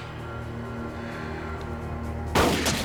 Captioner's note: gun firing